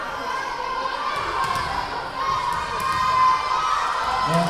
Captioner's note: yelling